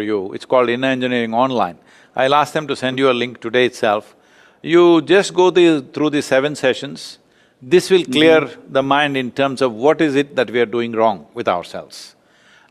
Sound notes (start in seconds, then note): none